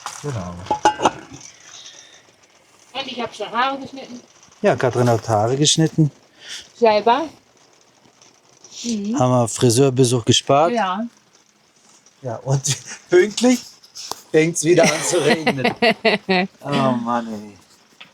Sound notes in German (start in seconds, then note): 14.8 gelächter